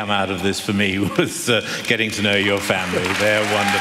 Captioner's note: applause